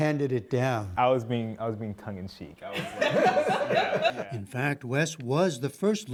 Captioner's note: laughter